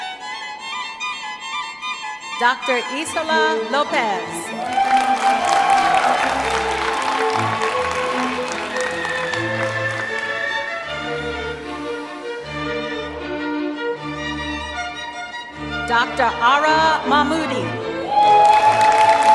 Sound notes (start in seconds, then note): 4.5 applause; 18.1 applause